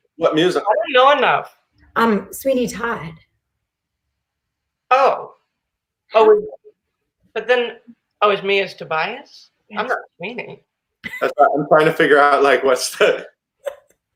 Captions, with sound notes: - What musical? - I don't know enough! - Sweeney Todd. - Oh. Oh... But then... Oh, me as Tobias? - Yes. - I'm not Sweeney. (Celia laughs) - I'm trying to figure out, what's the...